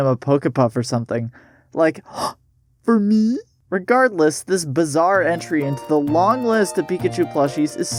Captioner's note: gasp